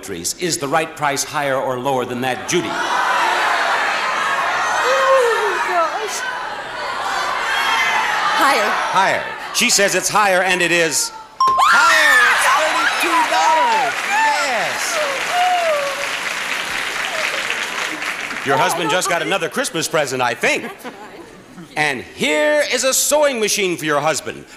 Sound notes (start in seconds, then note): 2.6 audience shouting; 12.4 cheers of excitement